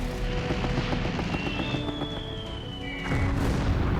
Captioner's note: gunfire; artillery whistle